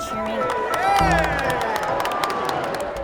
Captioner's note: applause and cheering